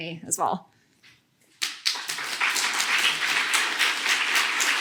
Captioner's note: applause